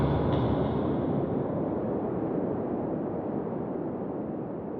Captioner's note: foreboding music; wind whooshing